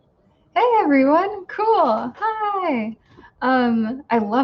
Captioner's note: none